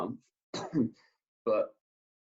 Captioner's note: coughs